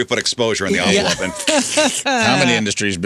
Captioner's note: laughter